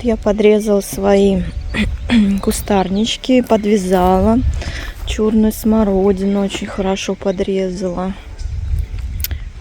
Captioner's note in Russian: откашливается